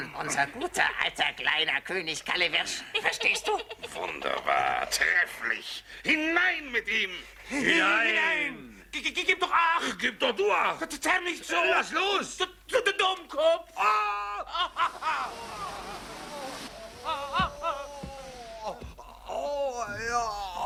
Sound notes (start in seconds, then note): 13.7 yells